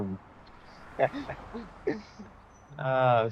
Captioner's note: both chuckle